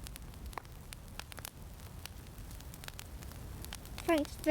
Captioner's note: fire crackling